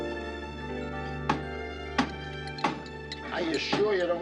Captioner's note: hammering